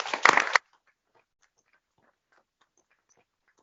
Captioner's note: applause